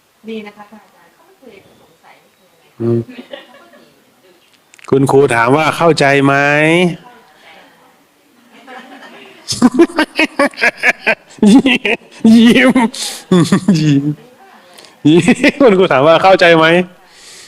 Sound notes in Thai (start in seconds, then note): 8.6 เสียงหัวเราะ